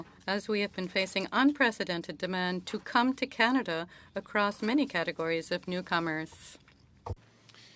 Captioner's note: speaking French